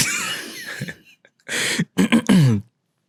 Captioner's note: laughing